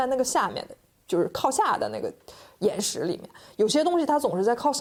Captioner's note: speaking Chinese